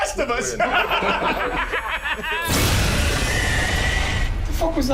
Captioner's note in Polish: śmiech